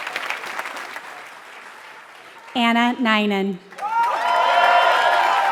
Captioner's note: applause